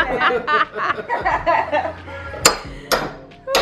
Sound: laughing

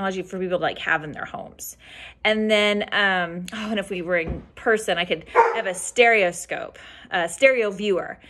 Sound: dog barking

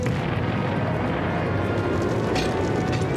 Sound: explosion

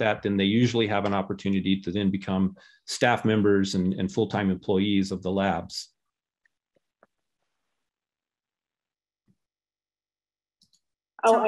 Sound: silence

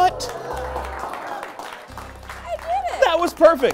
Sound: applause

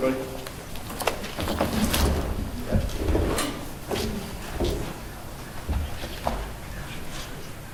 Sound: rustling and movement

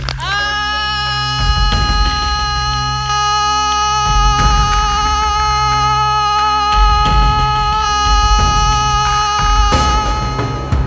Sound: screams

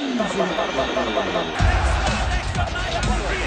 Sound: crowd cheering

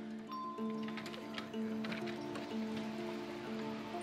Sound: dinging

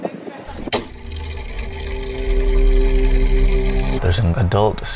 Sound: mechanism whirring

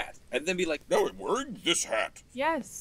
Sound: changing voice

